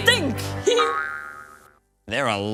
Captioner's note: Bubbles giggles